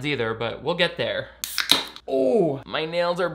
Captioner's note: can top popping